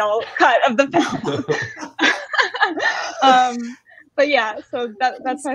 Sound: all laughing

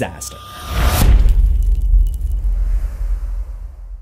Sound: impact

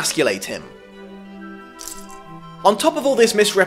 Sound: cuffs rattle

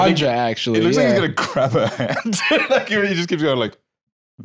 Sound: laughs

